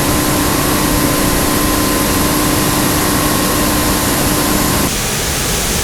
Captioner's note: engine revving